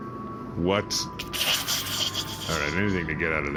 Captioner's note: Kleeb hisses